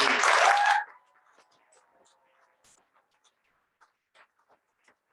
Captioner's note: cheering and applause